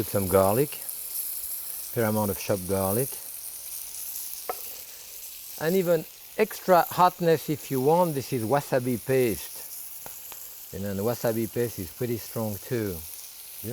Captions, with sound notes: I wanna put some garlic, fair amount of chopped garlic. (pan sizzling) And even extra hotness, if you want, this is wasabi paste. And then, the wasabi paste is pretty strong too, yeah?